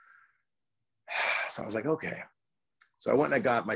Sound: sighs

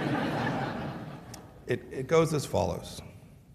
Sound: laughter

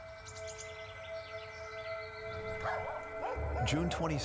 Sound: birds chirping; dog barking

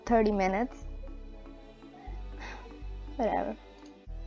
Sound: sisghs

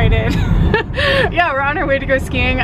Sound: laughs

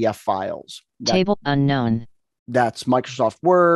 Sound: computer Voice

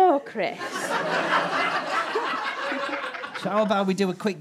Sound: audience laughter

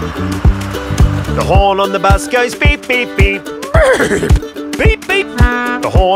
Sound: neigh

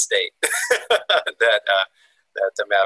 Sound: laughs

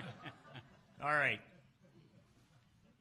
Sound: laughs

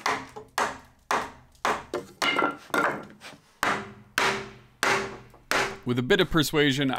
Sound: hammering wall into place

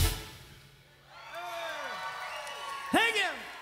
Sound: crowd cheering

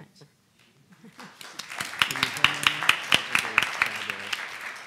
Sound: audience applauds

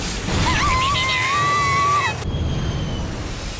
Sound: panicked cry

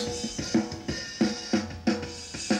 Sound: pitch lowers

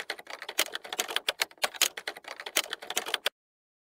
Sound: sound of typing

